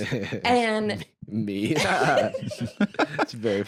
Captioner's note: laughs